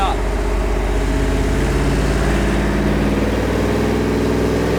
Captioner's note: engine revving